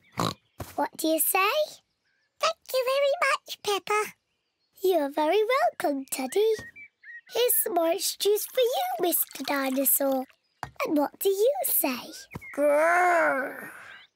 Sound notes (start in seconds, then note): 0.1 oinks; 2.1 in squeaky voice; 4.6 in normal voice